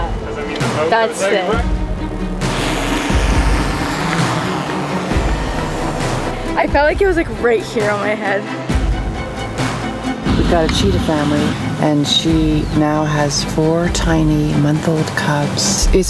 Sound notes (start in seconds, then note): 1.6 drone buzzing; 4.8 dramatic music continues